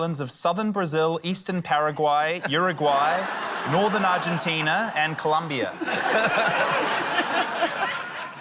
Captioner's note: laughter